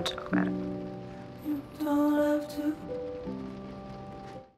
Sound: thunder rumbling in distance

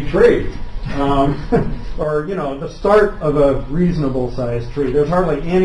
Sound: laughs

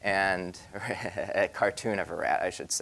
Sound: laughing

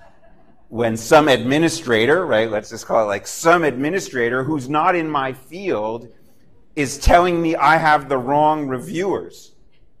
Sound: laughter

